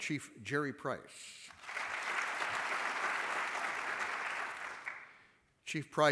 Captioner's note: applause